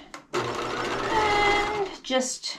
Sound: sewing machine clunking

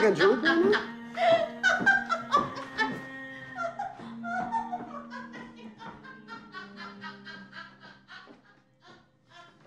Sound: laughter

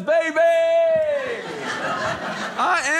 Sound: audience laughing

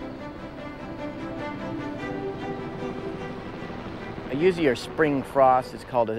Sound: helicopter engine

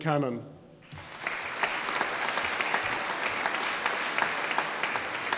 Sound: audience applauding

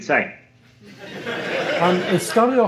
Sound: laughter

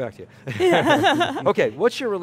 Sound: laughing

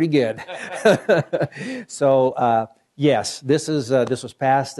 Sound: laughs

